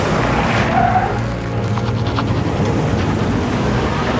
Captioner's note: tires screeching